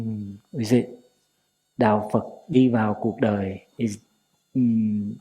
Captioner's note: Vietnamese